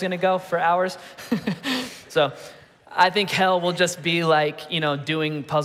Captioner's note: laughing